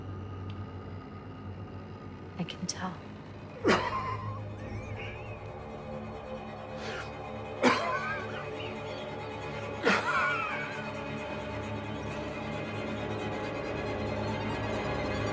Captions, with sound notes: Je peux dire. (respiration sifflante profonde) (musique tendue)